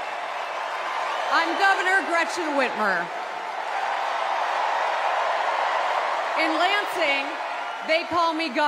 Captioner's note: cheers and applause